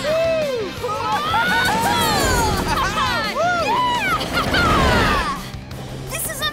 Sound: cheering

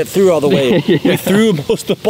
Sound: laughing

